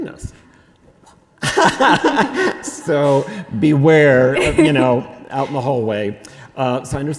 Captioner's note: laughs